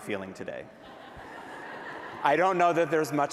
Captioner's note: laughter